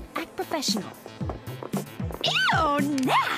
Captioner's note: footsteps